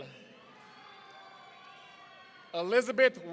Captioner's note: audience cheering